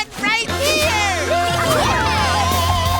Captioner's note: cheering